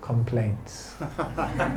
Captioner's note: laughter